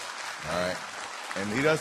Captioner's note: applause